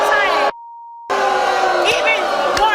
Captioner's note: audience booing